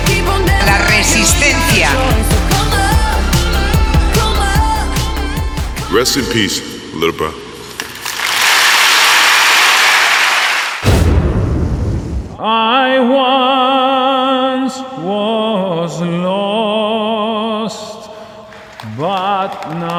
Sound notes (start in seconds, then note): 8.0 applause